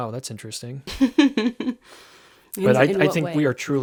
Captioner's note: laughing